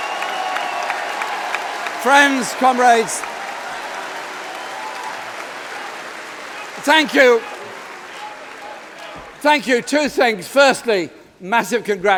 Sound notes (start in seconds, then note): 2.3 applause